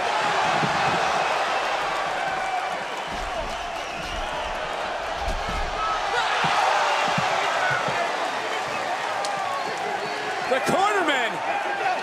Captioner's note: crowd cheers